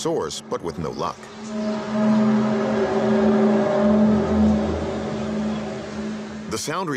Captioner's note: groaning sound